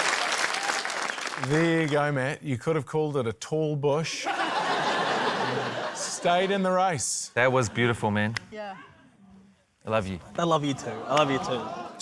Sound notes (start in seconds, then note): 4.2 laughter